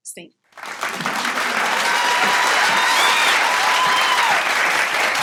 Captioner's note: audience applauding